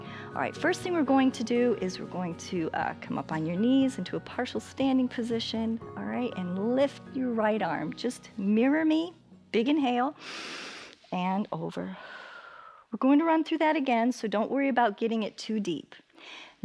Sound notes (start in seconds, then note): 10.2 inhales; 10.2 exhales